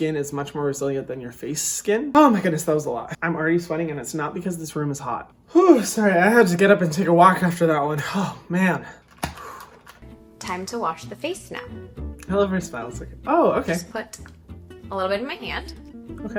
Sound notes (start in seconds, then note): 5.5 sighing; 9.2 flapping